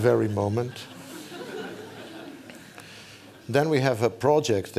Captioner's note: laughter